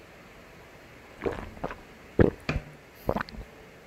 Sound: an aggravated gulp of water

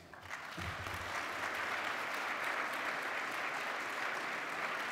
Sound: audience applauding

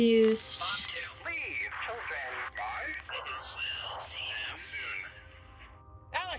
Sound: radio

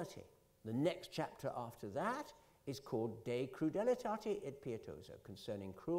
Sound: italian; italian

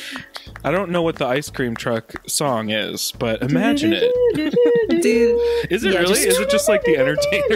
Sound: hums

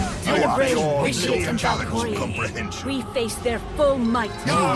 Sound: multiple voices

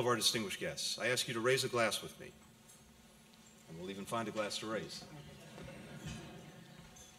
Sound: laughter

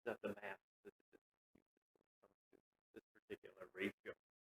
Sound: audio cuts out

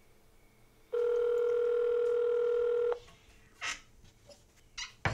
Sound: phone ringing

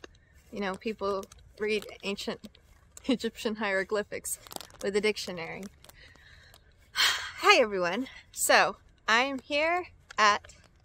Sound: sighs

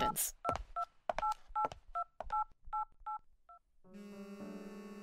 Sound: phone dials; phone vibrates

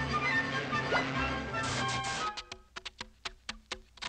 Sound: engine sputtering

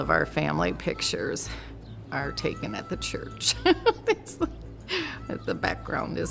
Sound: laughs

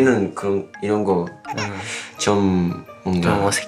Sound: crying

